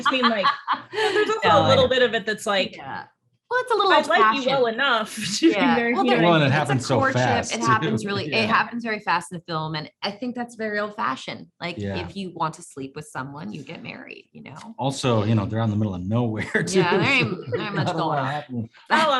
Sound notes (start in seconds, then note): 0.0 Kirsten laughing; 5.6 indistinct chatter